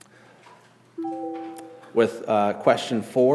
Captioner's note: computing chimes